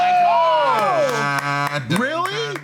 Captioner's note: clapping